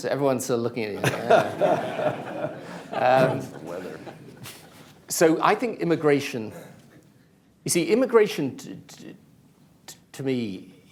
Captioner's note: laughter